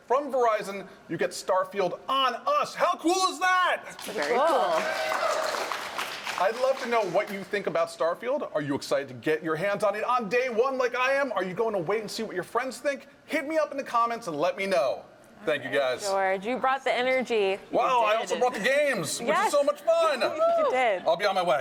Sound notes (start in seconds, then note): 3.9 applause